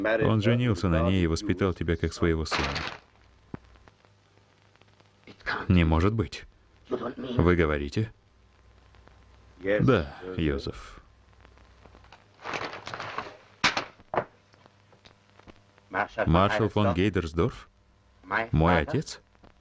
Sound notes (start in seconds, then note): 2.5 paper rustling; 11.3 rustling sound